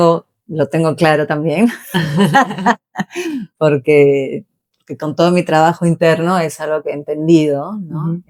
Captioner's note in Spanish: risas